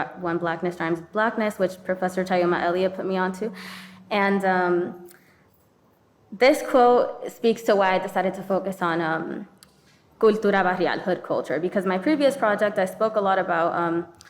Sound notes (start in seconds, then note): 9.1 speaking in foreign language